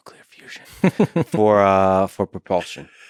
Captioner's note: Tim laughs